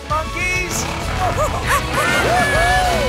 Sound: monkey noises

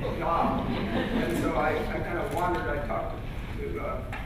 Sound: laughter

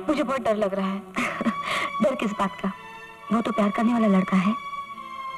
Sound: chuckles

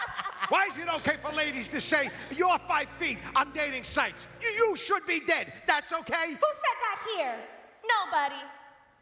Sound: laughter

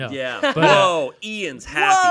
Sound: laughing

